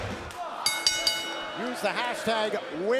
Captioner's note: bell rings